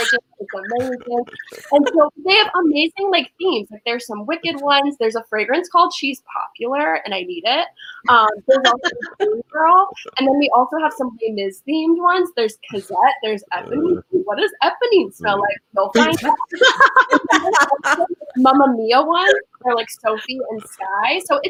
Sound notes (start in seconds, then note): 8.0 laughs; 16.0 everyone laughs